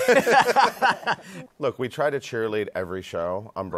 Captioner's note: laughter